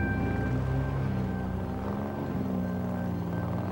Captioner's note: engine rumbling